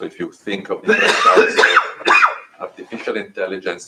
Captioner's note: coughing